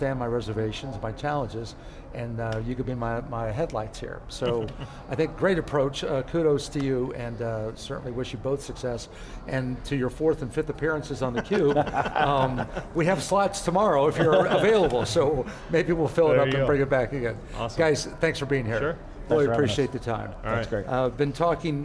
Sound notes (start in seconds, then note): 4.4 laughs; 11.3 laugh